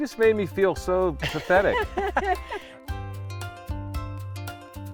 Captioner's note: laugh